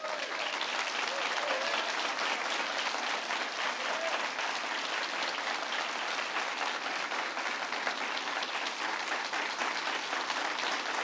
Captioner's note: applause